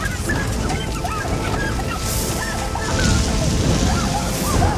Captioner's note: screaming